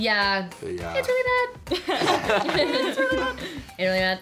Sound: laughs

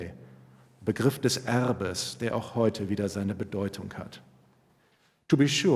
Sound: speaking german

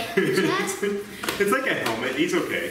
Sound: laughs

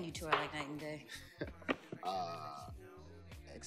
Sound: laughs

